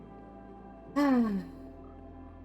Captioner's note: sigh